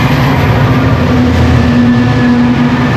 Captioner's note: brm class noise